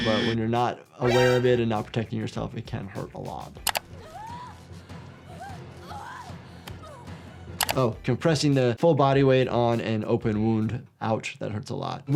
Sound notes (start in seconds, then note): 3.6 dramatic music; 3.8 Sidney wailing